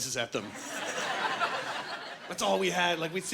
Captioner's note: laughing